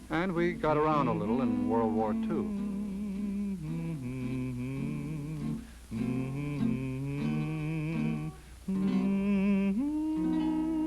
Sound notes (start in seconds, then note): 3.2 guitar strumming; 3.2 humming